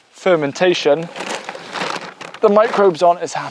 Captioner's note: bag shuffling